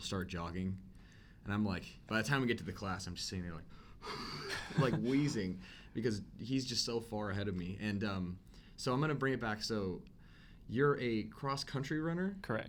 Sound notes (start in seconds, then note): 4.0 wheeze